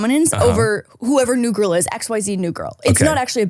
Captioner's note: laughing